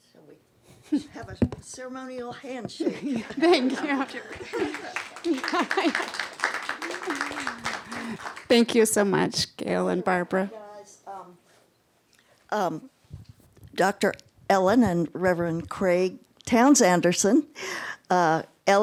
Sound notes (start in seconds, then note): 2.8 laughter; 5.7 applause